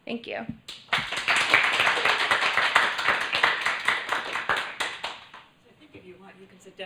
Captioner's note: applause